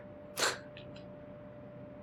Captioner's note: scoffs